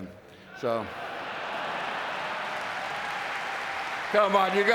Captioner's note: audience cheering